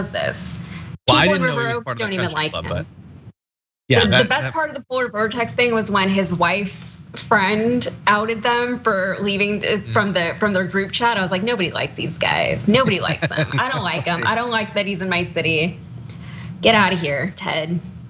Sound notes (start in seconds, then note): 12.6 laugh